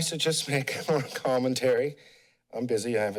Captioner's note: chuckles